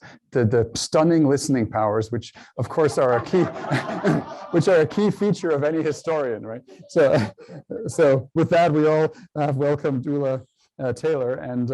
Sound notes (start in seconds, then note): 2.7 laughter